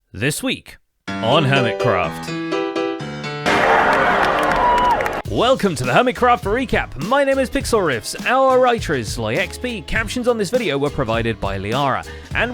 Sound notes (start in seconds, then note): 3.5 someone cheers and claps; 3.6 piano crashes, distorts into Playstation startup sound